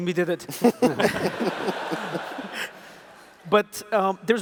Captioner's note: laughs